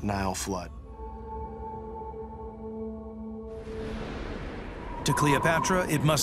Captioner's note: gentle suspenseful music; air whooshes